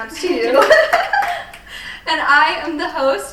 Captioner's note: all applauding